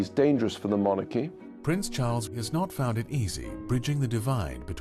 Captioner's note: voiceover